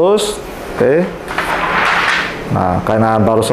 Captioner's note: PET film sound